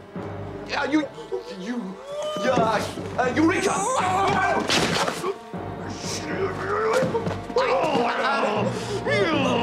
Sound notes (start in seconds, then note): 6.9 growls